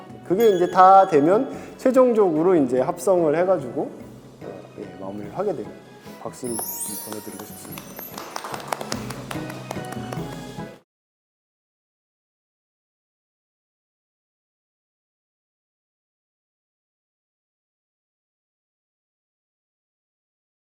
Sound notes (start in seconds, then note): 6.6 A round of applause for all members of staff